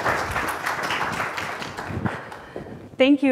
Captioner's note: applause